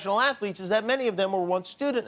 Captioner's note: none